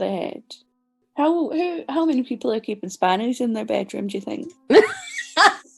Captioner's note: laughs